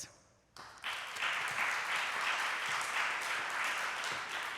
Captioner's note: applause